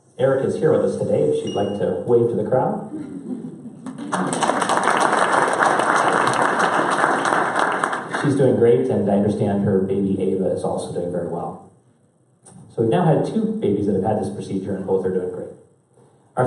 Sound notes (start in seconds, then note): 3.8 applause